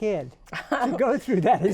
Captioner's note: laughs